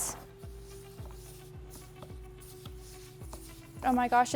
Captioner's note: stirring